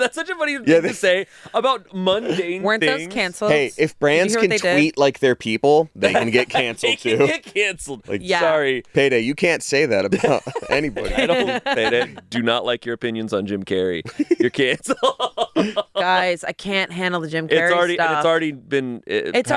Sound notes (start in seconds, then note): 14.0 laughing; 14.1 laughs